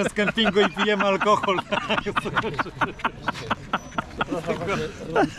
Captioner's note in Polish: śmiech